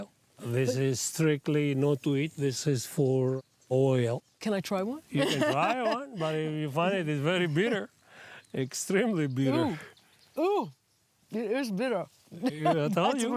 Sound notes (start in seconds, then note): 5.1 laughs